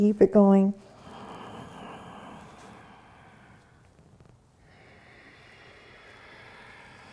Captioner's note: inhaling and exhaling